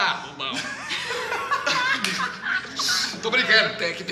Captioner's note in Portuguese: Risadas